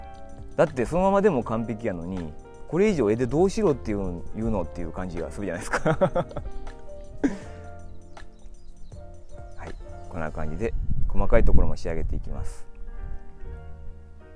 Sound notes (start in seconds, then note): 5.6 laughs